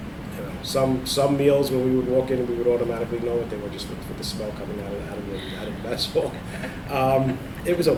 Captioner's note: laughs